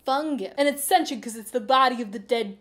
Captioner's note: producer voice; male new yorker voice